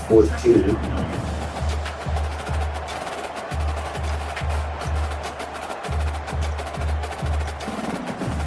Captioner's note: crowd Noises